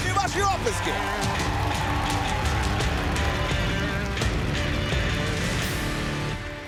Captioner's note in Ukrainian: оплески